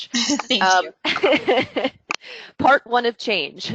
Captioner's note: laughing